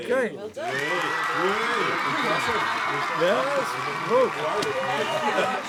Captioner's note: applause